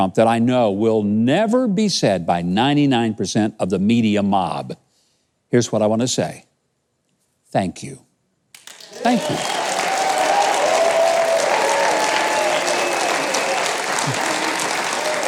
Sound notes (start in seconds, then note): 8.6 audience cheers